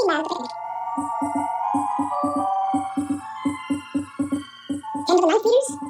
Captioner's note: beeping